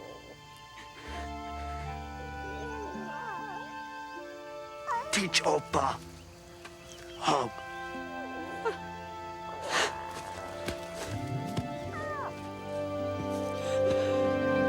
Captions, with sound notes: - Teach Opah hug. - Huh. (Stink gasps) (uplifting music)